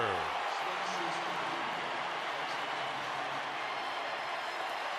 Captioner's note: cheering